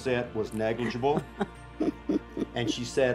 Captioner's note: laughs